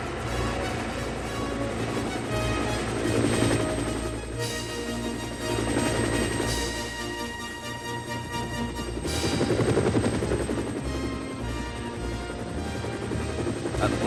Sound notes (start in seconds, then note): 0.0 Helicopter whirring, Harold's triumphant music plays